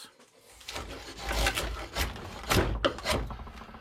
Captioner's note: scraping and grinding noises